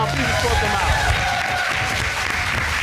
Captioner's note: applause